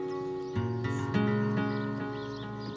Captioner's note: birdsong